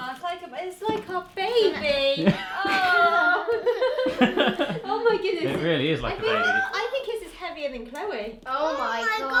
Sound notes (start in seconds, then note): 2.1 laughing